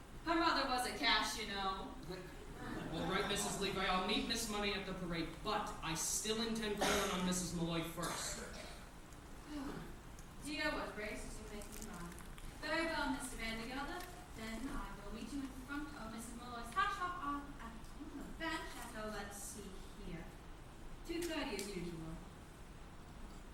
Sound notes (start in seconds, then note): 9.4 sighs